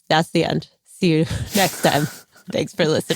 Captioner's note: laughs